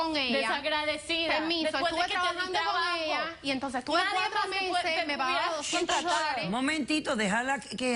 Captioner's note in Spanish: Hablan al unísono